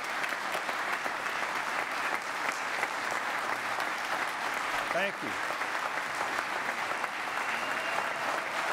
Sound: applause

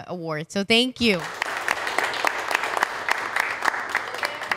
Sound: clapping

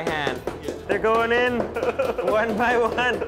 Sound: pestle banging; men laughing

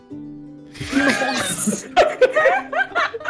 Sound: laughing

